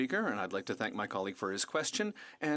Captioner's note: speaking french